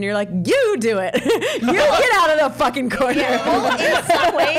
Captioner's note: laughs; all laughing